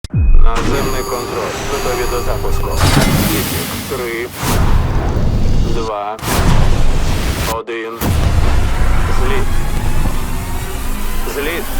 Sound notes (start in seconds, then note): 0.0 man over radio; 4.3 whooshing